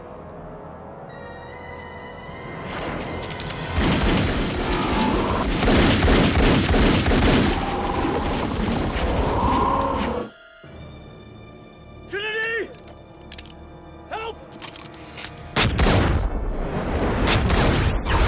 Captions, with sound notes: (suspenseful music) (gunshots) Trinity, help! (gunshots)